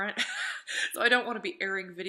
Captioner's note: laughing